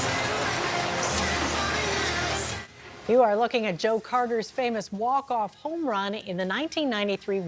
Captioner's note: cheers